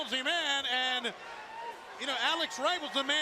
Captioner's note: crowd chatter